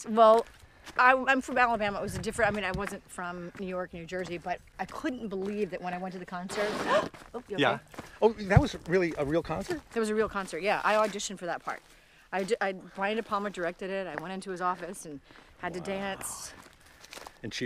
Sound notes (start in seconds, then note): 6.5 bag scrapes; 6.7 gasps